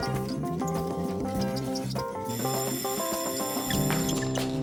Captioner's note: bell ringing